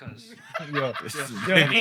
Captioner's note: laughter